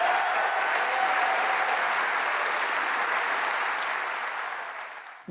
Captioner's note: applause